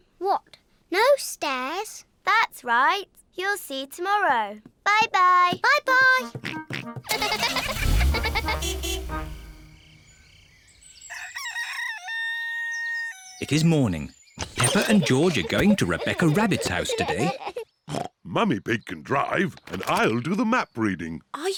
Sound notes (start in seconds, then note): 6.5 horn toots; 7.0 giggling; 11.0 rooster crows; 17.8 snorts